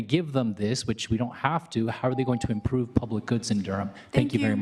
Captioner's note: beep